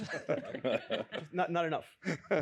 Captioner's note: laughter